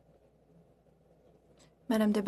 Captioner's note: speaking French